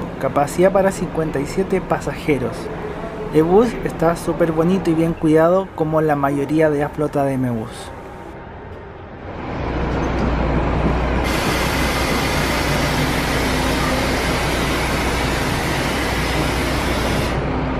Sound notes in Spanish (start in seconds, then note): 9.4 sonido ambiente, bus 'Eme Bus 113' en el terminal